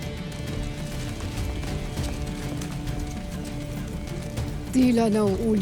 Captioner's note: rock music playing; footsteps pattering